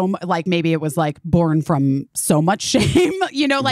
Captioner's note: chuckling